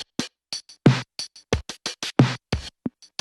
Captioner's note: none